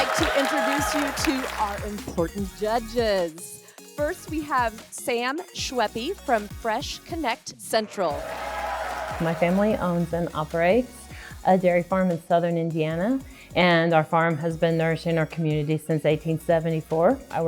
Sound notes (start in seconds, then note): 8.0 crowd cheers